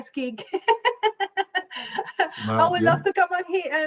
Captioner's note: laughs